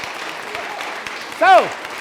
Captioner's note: cheers & clapping